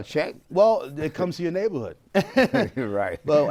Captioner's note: laughs